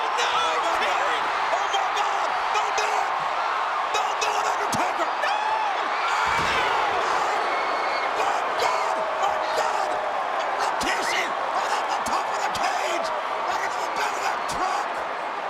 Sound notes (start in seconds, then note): 6.5 audience cheering; 6.5 body thuds